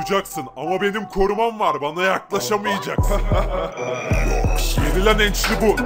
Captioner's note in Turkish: Arkadan Hafif Gülme Sesleri